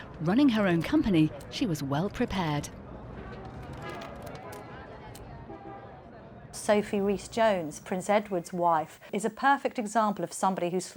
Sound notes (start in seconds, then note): 3.0 people chattering; 3.4 cameras shuttering; 5.4 cars honking